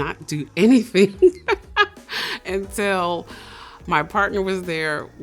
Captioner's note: laughs